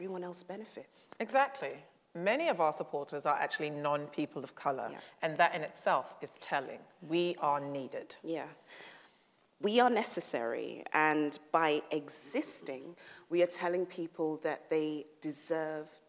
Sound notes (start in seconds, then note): none